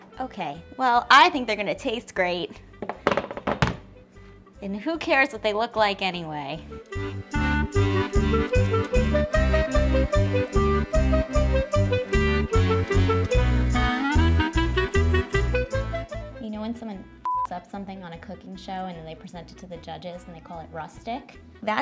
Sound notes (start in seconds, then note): 7.0 bright whimsical klezmer music; 17.3 beeps